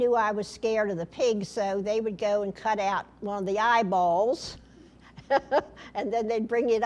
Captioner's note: laughter